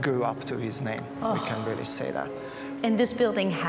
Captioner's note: sighs